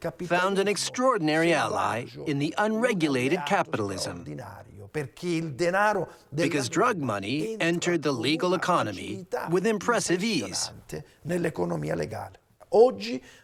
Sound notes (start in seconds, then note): none